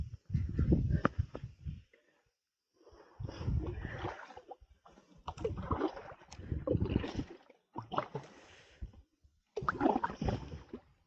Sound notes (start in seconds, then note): 3.3 paddling